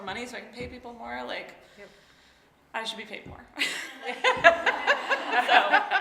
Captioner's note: laughs; laughing